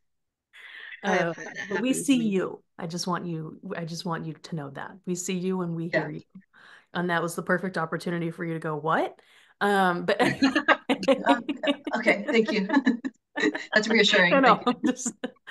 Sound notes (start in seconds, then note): 10.2 laughs